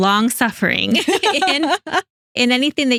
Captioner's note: laughing